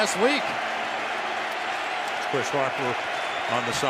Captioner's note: cheering